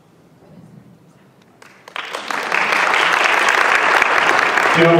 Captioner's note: applause